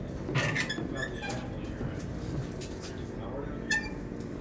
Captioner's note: puerta cruje